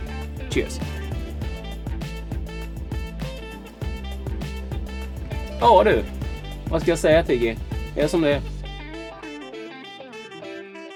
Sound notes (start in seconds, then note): 5.4 Speaking Swedish to Tiggy